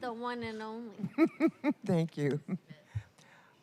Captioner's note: laughter